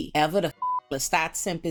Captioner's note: beep